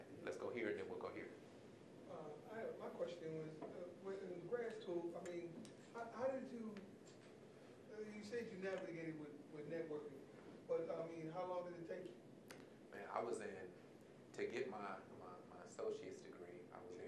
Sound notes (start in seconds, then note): none